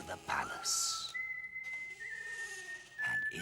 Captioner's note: soldier whistling